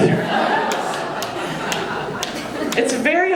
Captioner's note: audience laughing